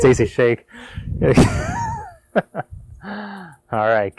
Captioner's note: laughing